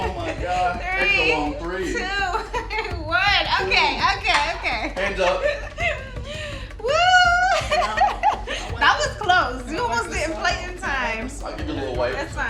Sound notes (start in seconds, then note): 6.8 laughs